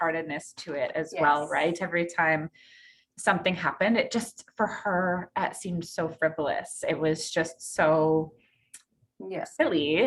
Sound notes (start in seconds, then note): none